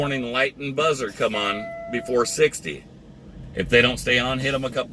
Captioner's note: alarm beeping